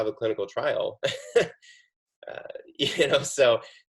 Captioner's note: chuckles